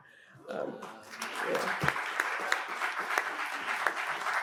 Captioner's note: audience applauds